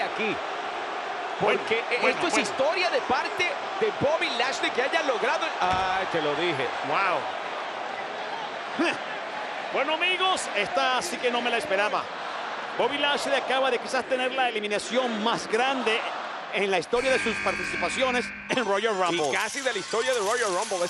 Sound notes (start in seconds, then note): 7.5 laugh